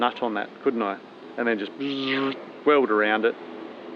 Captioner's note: buzzing